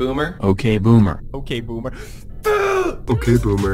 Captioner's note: groans